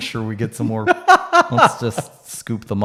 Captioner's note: laughing